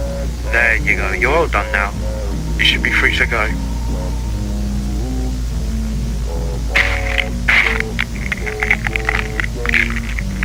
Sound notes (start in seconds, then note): 6.2 neck snaps; 8.2 bones crackling